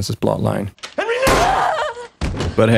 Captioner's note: gunshot